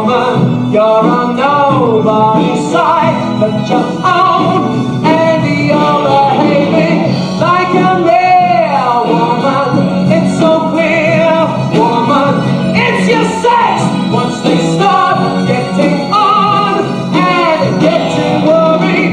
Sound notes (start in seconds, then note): none